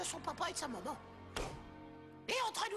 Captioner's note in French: pouf